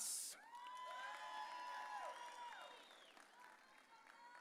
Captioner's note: audience cheering